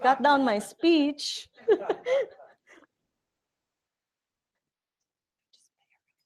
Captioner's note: chuckling